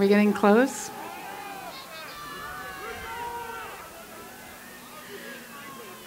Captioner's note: cheering